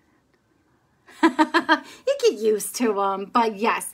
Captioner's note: laughs